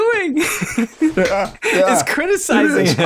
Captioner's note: laughter